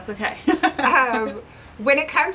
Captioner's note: laughing